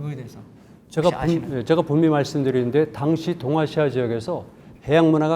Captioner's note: speaking in Korean